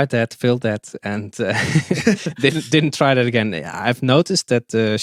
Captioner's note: both chuckle